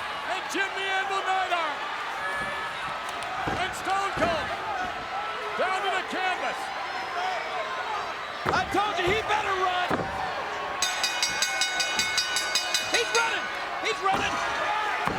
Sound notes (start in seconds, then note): 10.8 bell dinging